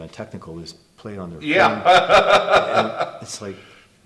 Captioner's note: laughs